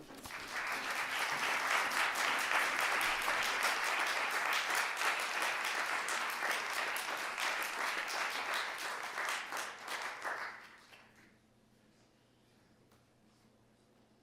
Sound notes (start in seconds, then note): 0.0 applause